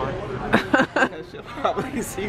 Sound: laughs

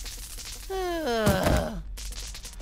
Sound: groaning

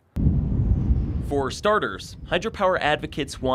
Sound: voiceover

